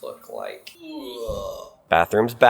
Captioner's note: man retching